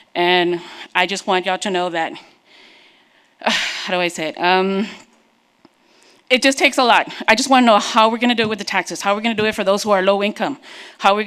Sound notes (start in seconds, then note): 3.5 sighs